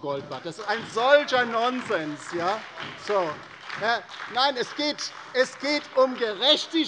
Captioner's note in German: Beifall bei der LINKEN und der SPD